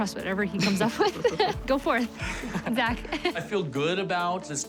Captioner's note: both laughing